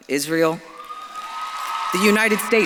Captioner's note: audience claps and cheers